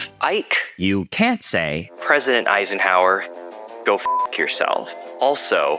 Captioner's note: beep